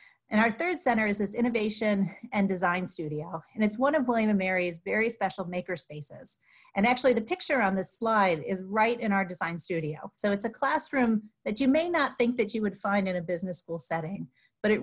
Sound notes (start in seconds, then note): none